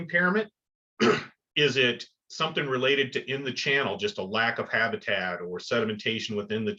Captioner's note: cough